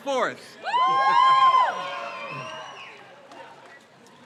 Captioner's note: crowd cheers